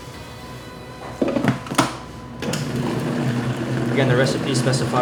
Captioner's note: blender lid clatters